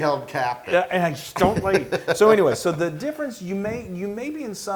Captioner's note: laugh